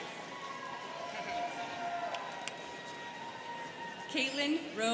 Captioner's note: students cheering